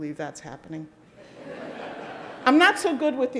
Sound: audience laughing

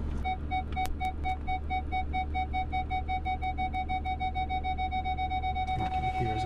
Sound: beeping

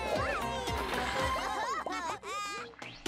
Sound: laughing; upbeat music

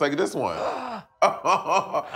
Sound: gasping; laughing

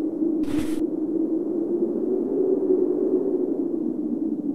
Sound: wind howls

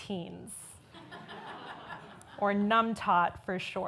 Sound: audience laughs

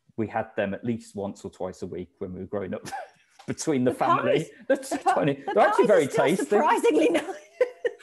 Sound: laughing

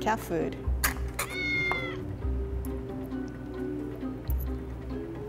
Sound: cat meows

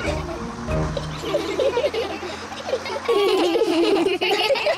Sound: all giggle

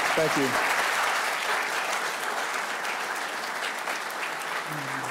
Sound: audience applauding

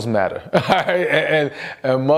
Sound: laughs

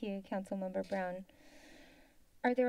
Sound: rustling sound

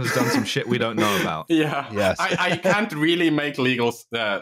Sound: laughs

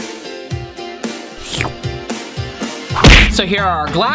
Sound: slurping

